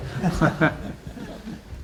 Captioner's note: laughter